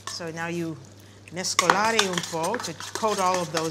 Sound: italian

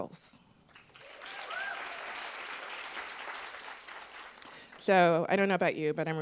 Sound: attendees applauding

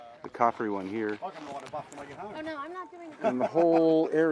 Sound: tourist chatting

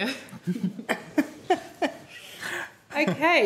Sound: chuckling

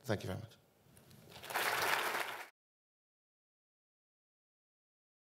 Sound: audience clapping

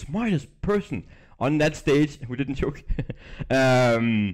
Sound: chuckles

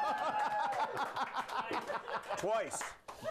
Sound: laughter

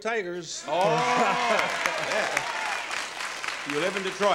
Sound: audience cheers

